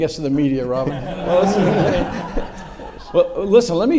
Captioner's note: audience laughs